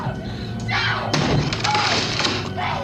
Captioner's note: wood cracking